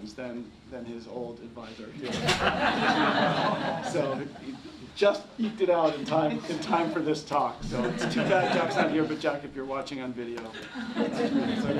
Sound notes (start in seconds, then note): 2.0 laughter